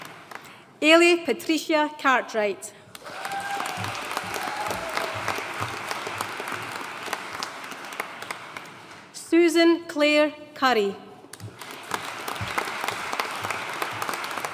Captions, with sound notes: Eilidh Patricia Cartwright. (AUDIENCE CHEERING AND APPLAUDING) Susan Clair Currie. (AUDIENCE APPLAUDING)